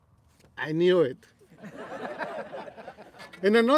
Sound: laughter

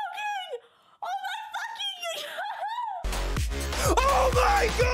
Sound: laughs

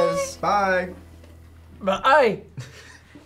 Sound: burps

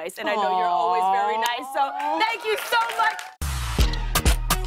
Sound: cheering and applause

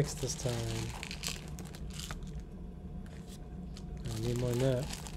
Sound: coffee beans rattling

